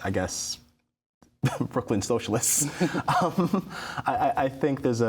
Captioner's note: chuckling